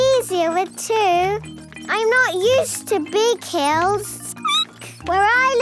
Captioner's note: squeaking